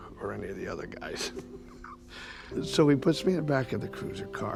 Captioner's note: chuckling